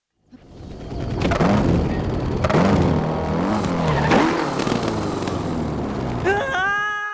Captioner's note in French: bruit de la moto